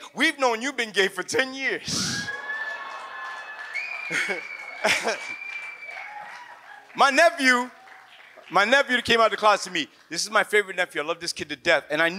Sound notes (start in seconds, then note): 2.0 audience cheers